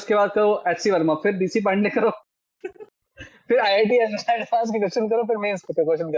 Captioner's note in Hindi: हंसी